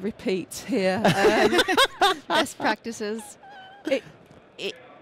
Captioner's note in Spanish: risas